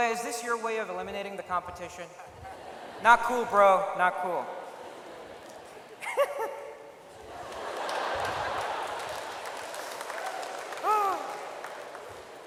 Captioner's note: laughs at own joke